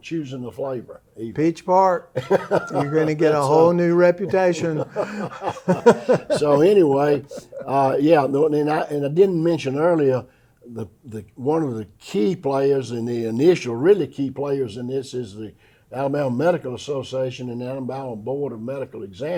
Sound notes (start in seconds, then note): 5.9 laughter